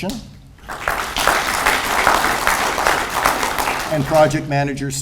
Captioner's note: audience applauds